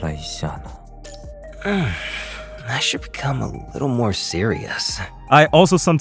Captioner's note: yawn